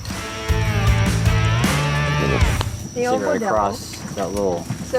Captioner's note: upbeat guitar rock music; group conversing in back